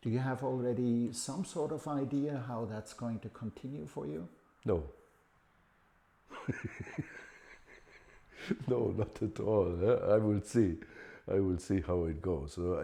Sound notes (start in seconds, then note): 6.3 laughs